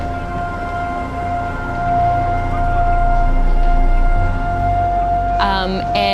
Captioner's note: siren ringing out